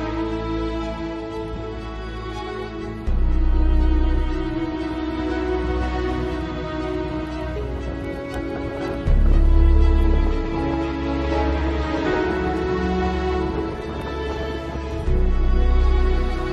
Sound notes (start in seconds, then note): 2.9 sound of wind